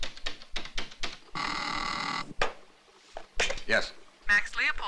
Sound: intercom buzzes

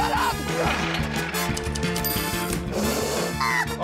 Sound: tings

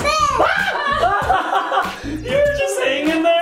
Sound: screams; laughs

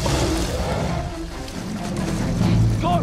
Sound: growls

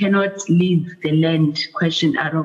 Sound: audio buffering

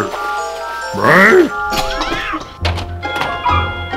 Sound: Bigfoot grunts; crash! Cat screeches!

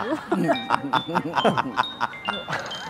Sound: grunting

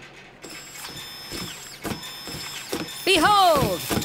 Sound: machine movement

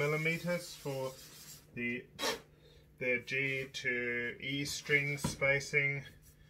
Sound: blowing

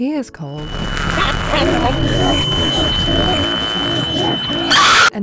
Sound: radio static; screech

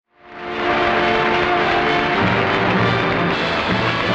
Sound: swelling orchestral music; audience applause

